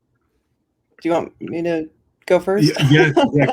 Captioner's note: laughing